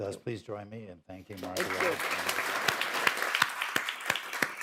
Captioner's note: applause